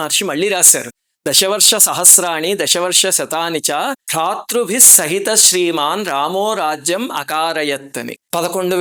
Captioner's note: reciting verse